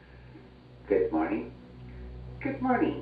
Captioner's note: overhead announcement